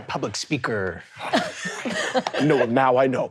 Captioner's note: laughing